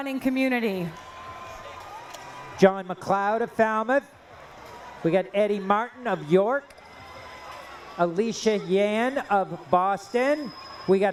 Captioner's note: cheering